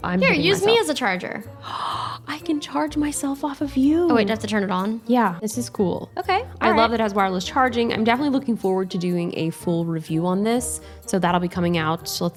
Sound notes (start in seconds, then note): 1.6 gasp